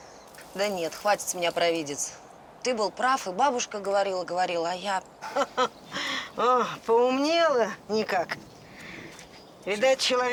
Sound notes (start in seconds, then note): 5.2 laughs